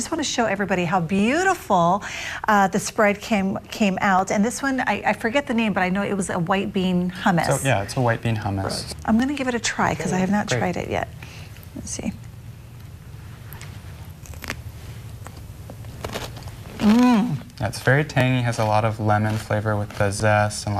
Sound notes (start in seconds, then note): 14.1 chewing sounds